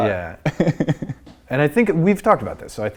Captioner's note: laughing